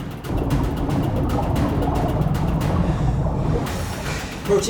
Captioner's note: water bubbling